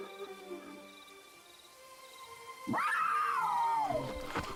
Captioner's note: wild animal growl; wild animal screech